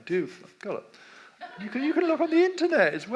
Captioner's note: audience laughs